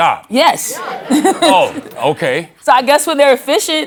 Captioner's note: laughs